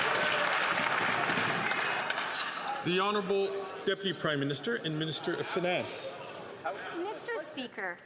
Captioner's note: some Applause